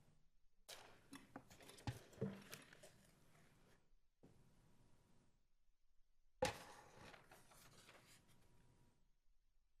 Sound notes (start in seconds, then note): 2.6 shuffling pens and paper